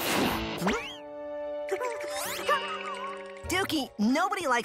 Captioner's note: whimpering